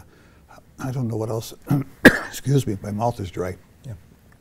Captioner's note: coughs